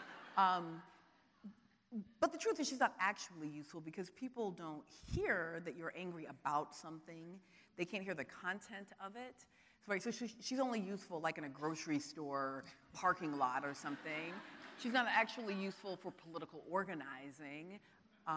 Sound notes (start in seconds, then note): 14.2 audience laughing